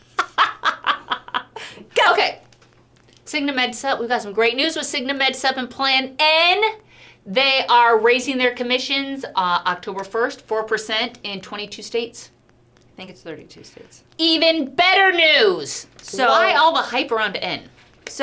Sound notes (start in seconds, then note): 0.1 laughs